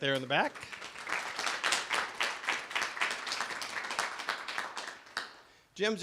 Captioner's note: clapping